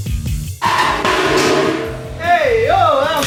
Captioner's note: frame rail falls to ground